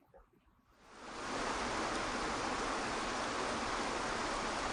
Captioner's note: rushing water